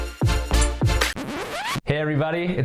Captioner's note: record scratching